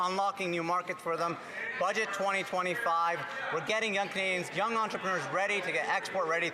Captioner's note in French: voix de l'interprète